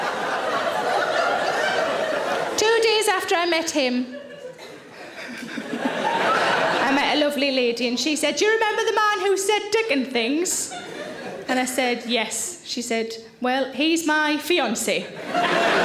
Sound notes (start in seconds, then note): 5.4 Sarah laughs; 6.3 audience laughs